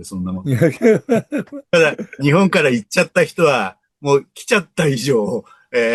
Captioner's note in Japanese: 笑い